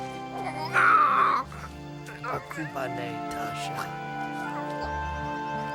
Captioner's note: Tasha cries; soft music